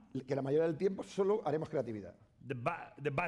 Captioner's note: speaking spanish